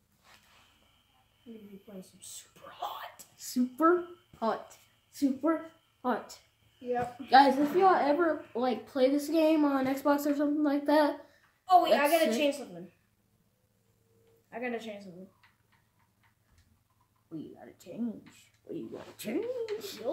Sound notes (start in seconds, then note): 2.4 in a small ongoing loud whisper; 3.4 chanting